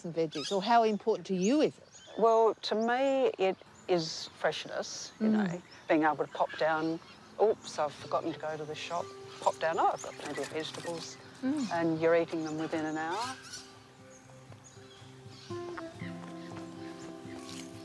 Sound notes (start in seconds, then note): 13.3 birds squawk; 13.3 gentle music